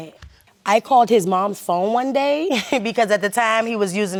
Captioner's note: laughs